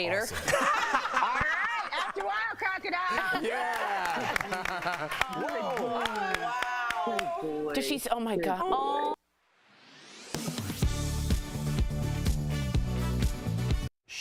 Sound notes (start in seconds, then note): 4.9 laughter; 6.6 applause